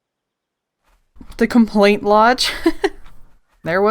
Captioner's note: laughs